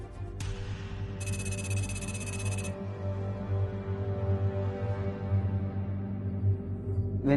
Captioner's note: intense music; eerie music; rapid electronic beeps